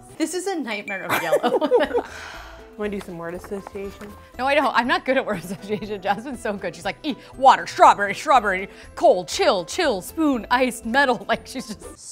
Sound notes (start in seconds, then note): 1.2 all laugh; 2.0 sighs; 5.4 laughs